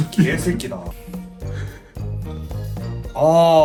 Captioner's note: sniffs